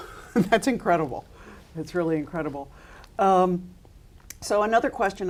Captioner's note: chuckles